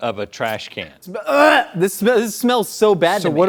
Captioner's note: gags